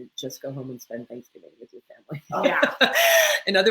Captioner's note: laughs